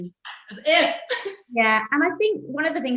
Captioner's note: laughs